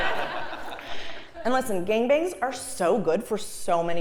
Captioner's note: laugh